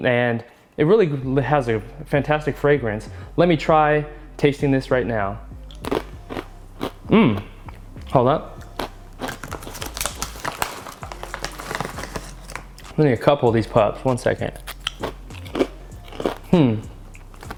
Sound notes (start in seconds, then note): 5.7 crunching; 9.1 crunching; 15.9 crunching